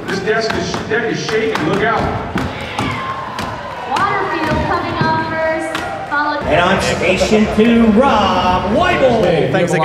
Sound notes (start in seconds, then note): 3.0 crowd cheering